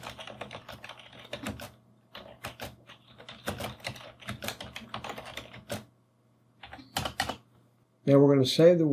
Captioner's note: keyboard clicking